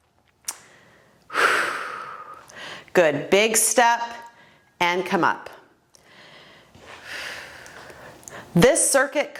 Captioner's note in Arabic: زفير